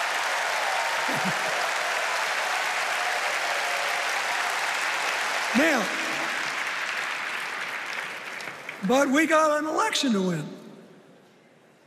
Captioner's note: cheers and applause